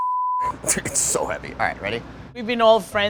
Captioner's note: both laughing